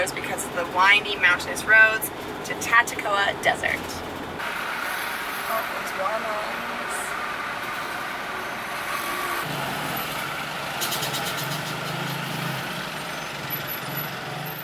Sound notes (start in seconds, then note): 5.2 traffic noise